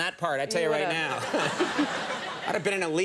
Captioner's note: laughter